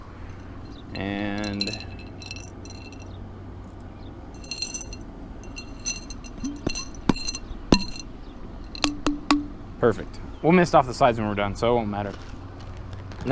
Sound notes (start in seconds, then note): 5.5 bonk bonk bonk